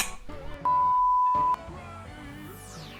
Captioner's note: beep; upbeat pop music